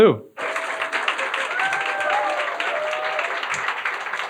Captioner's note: audience applauding